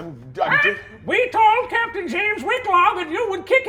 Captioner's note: squawks